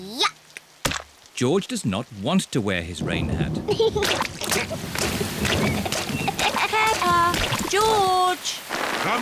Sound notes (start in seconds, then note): 2.8 thunder rumbling; 3.9 giggling